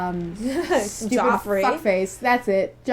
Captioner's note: laughing